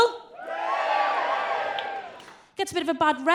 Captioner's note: crowd cheers